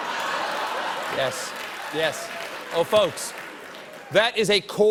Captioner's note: laughter